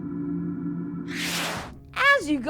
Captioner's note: hum; zap